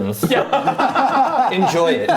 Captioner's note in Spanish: risas